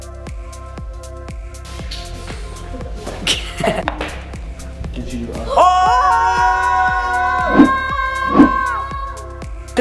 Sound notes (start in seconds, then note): 2.6 laughs; 5.4 screams excitedly